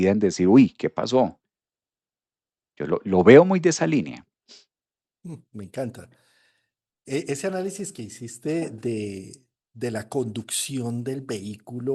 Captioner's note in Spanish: resoplido